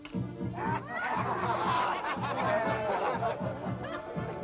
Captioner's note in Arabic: يضحك